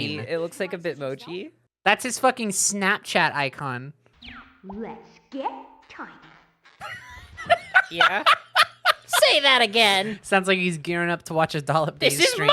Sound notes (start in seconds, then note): 5.0 weirdly echo-y; 6.9 laughing; 9.2 Spongebob voice